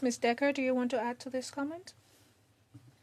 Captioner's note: speaking French